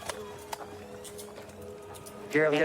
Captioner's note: handcuffs clicking